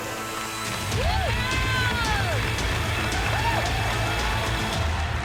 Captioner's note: cheering and applause